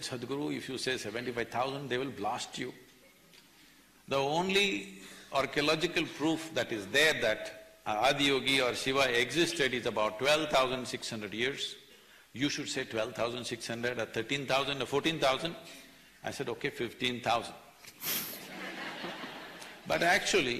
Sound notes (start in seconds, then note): 18.3 laughter; 18.4 laughs